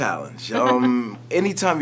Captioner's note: laughs